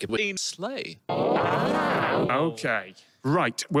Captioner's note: forwards and reversed multi-pitched oohing and ahhing